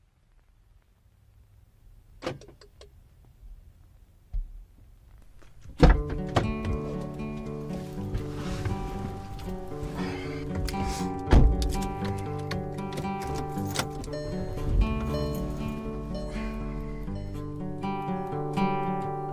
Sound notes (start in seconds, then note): 5.9 warm music; 10.4 car door bangs; 14.4 car beeping